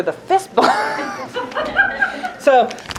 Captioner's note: laughter